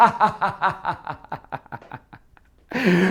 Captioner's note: chuckles